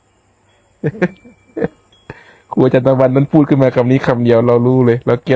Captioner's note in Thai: เสียงหัวเราะ